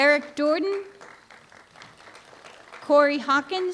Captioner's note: applause